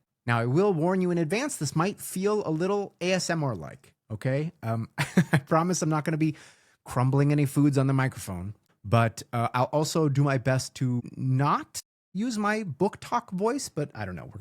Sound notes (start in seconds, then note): 4.9 laughs